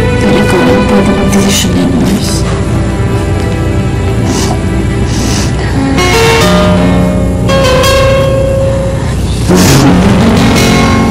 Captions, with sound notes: But only you can make that decision, Merce. [sniffles] [theme music playing]